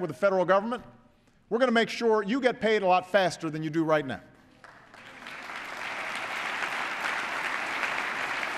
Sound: applause

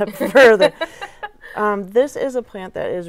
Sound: laughing

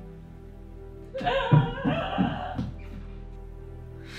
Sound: Julie wails in distance

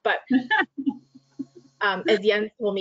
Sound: laughing

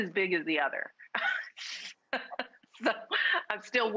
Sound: both speakers laughing

